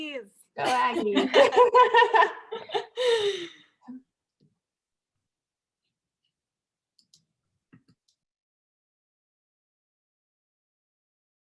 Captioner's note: laughter